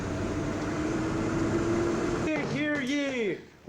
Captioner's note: engine rumbling